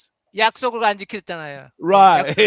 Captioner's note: non-english speech